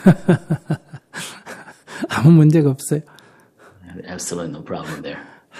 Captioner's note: Sunim Laughter